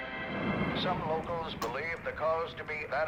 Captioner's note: radio Voice